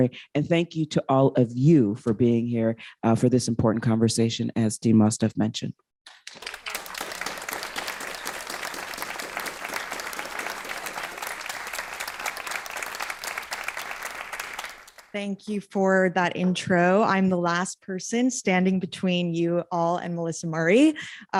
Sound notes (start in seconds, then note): 10.4 applause